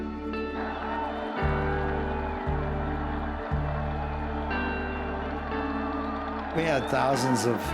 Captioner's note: crowd cheering and applauding